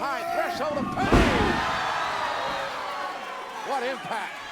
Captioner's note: audience cheering